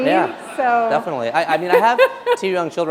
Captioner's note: laughter